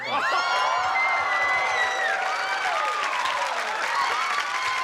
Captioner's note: cheering